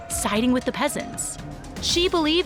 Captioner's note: distant chattering